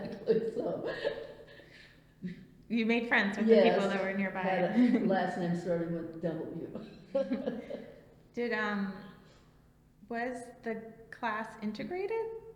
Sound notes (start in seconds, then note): 4.6 laughs